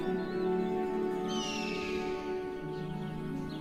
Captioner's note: eagle screeching